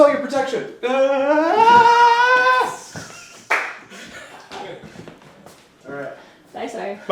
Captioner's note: screaming; crew laughing